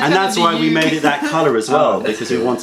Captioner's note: laughter